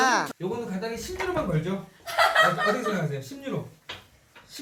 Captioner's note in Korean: 웃음